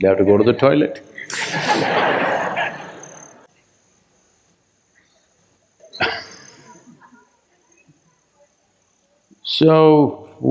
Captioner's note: laughter